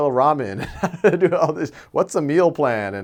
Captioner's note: laughs